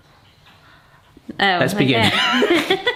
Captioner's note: laughs